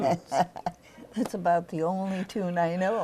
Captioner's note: laughter